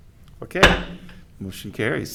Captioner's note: gavel thudding